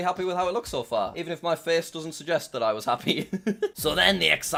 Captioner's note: laughs